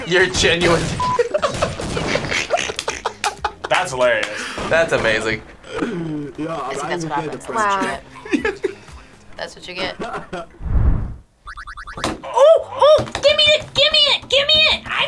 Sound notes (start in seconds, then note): 1.2 laughs; 11.4 game beeping